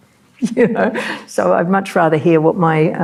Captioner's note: chuckling